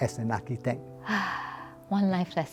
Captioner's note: sighs